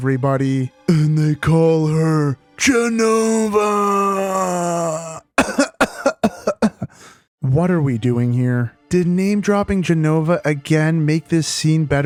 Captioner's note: cough cough